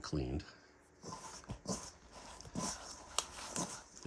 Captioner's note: scraping